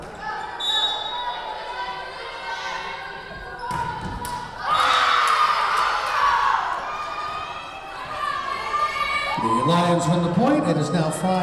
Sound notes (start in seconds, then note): 0.6 whistle blowing; 3.8 Lions cheering